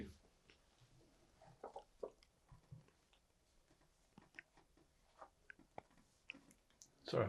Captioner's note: pauses 6 seconds